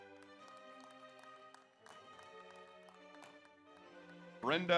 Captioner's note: audience applauds